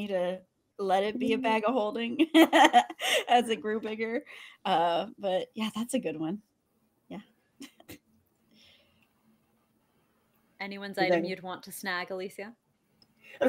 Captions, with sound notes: to let it be a bag of holding (laughs) as it grew bigger. But yeah, that's a good one. Yeah. (chuckles) - Anyone's item you'd want to snag, Alicia?